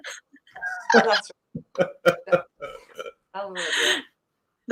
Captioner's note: laughing